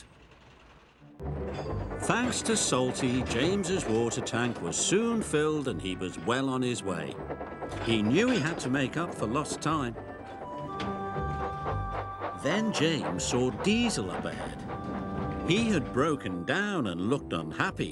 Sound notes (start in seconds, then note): 1.3 train chugging; 6.7 train chugging; 10.7 train puffing